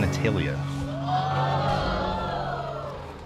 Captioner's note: audience gasping